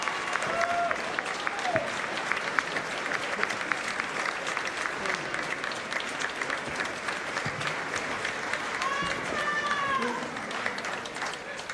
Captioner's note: applause